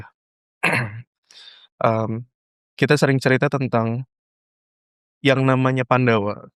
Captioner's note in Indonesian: berdehem